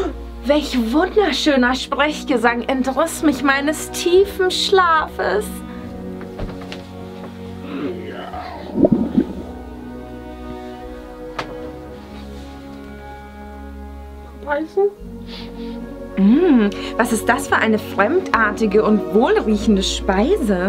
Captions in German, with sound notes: Welch wunderschöner Sprechgesang entriss mich meines tiefen Schlafes? *magenknurren* Mal beißen? Hmm, was ist das für eine fremdartige und wohlriechende Speise?